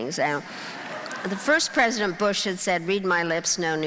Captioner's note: crowd laughing